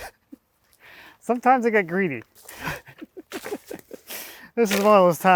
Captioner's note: laughs